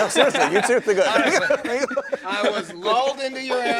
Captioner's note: laughing